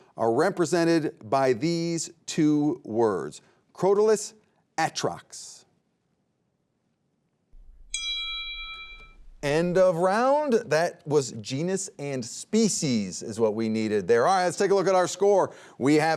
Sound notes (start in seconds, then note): 7.8 timer rings